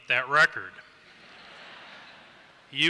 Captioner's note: laughter